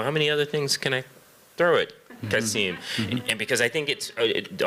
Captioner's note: laughter